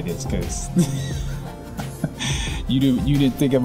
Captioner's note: laughs